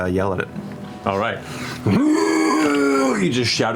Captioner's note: roars